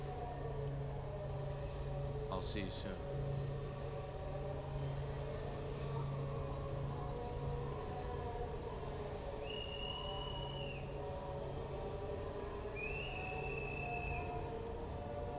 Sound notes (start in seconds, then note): 9.4 whistle blows; 12.7 whistle blows